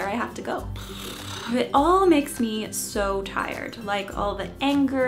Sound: blow raspberry

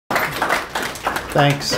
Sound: crowd applauds

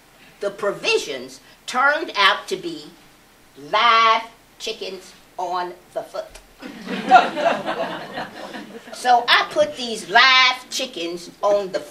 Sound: laughter

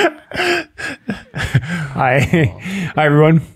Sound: chuckles; all laughing

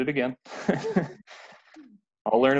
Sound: laughing

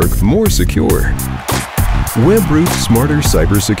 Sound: crowd cheering

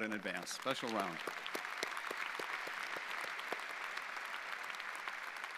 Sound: audience applauding

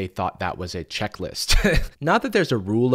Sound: chuckles

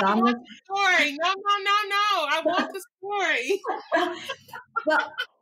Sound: all laugh

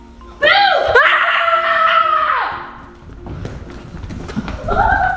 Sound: screaming and laughing

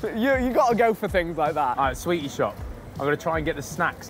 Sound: none

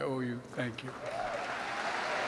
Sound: applause

